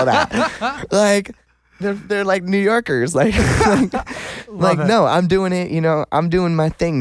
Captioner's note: laughs